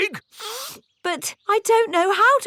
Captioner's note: sniffs